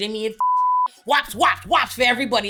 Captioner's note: beep